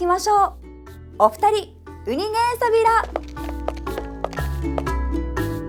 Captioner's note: in Okinawan